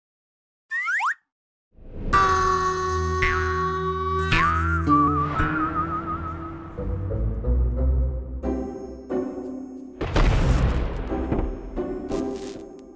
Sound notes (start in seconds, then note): 0.3 springy sound effect; 10.0 explosion